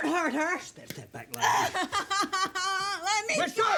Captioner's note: Dorothy sobbing